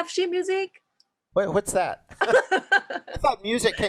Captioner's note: laughs